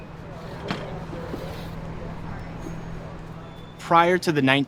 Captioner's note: people chattering